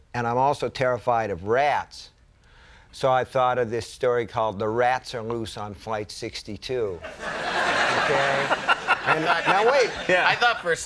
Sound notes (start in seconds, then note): 7.0 audience laughing; 7.6 Conan laughing